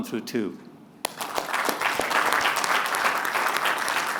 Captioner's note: applause